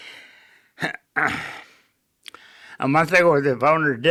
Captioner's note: clearing throat